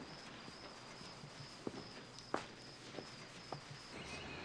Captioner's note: birds chirping